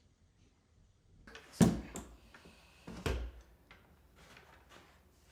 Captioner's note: tool thuds